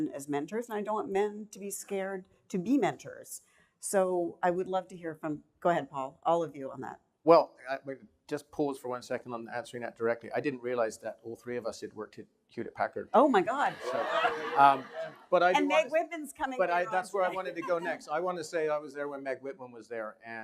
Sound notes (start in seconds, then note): 13.5 laughing